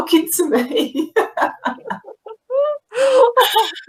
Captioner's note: laughing